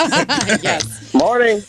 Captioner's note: laughing